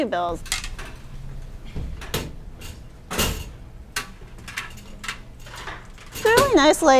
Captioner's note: installation noises